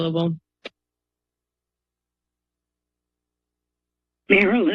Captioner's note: silence